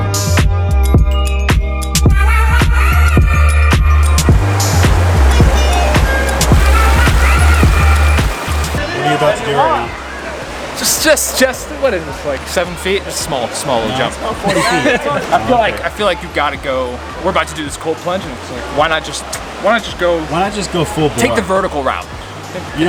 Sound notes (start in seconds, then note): 0.1 energetic electronic music; 4.8 water rushes